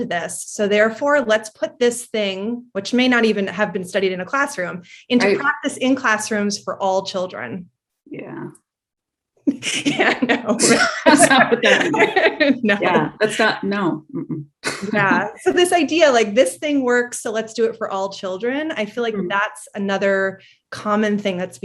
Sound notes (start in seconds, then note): 9.5 laughs; 12.5 both laughing